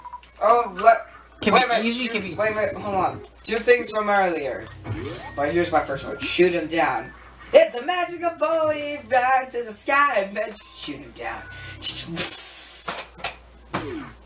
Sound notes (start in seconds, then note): 13.7 imitates gun sound